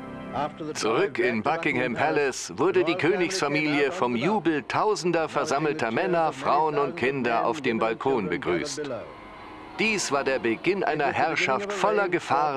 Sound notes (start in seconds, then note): 9.1 bells ringing; 9.1 people cheering